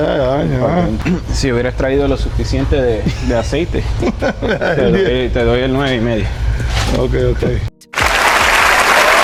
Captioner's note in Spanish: aplausos